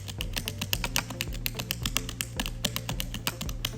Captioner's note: typing